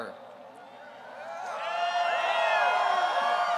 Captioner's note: crowd cheers